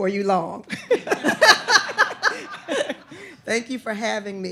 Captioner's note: everyone laughing